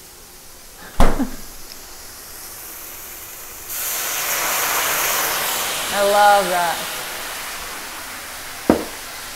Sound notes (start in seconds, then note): 3.9 pan sizzling